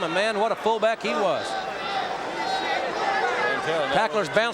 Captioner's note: audience cheering